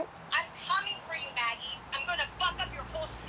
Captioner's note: on phone